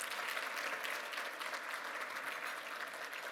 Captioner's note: applause